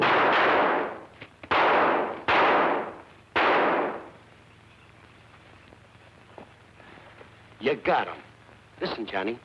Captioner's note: gunshots